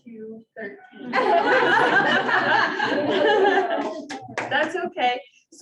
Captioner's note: audience laughing